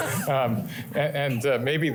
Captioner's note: laughter